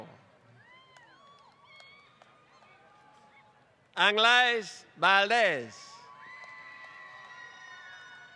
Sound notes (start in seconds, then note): 6.0 applause